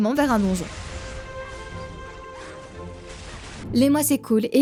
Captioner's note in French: bruits de combat